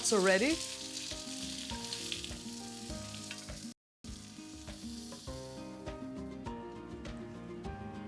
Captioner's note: sizzling